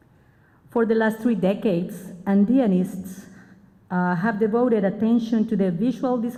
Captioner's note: spanish